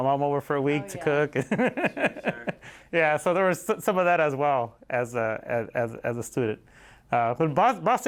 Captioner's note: laughter